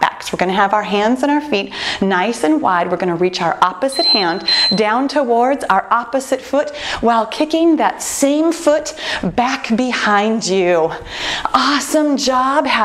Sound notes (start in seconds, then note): 3.9 timer beeping